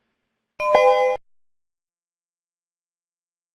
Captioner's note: ding